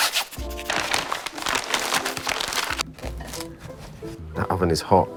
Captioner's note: scraping; paper rustling